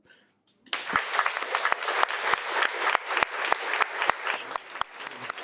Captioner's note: audience applauding